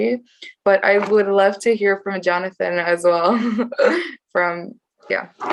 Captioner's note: chuckles